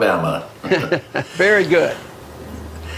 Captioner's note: chuckling